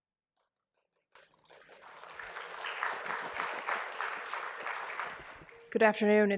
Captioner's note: applause